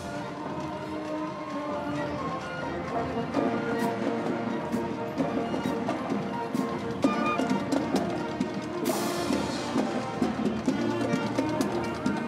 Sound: chanting

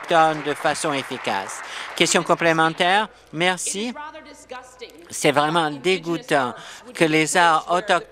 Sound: applause

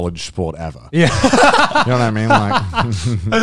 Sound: everyone laughs

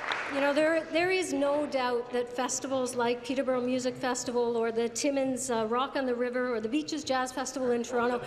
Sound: applause

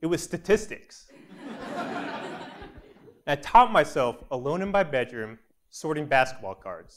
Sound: laugh

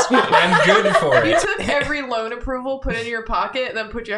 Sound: cackles

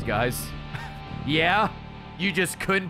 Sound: laughs

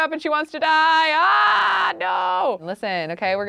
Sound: screaming

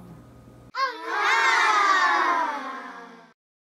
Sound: children exclaiming happily

